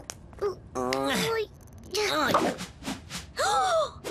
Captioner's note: both grunt; gasps